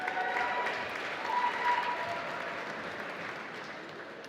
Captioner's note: applause